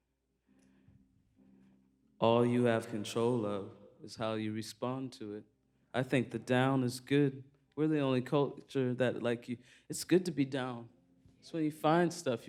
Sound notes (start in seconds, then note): none